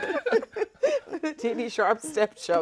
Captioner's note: all laughing